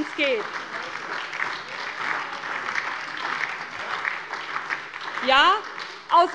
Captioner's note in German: Beifall bei der SPD - Zuruf von der CDU: Na, na, na!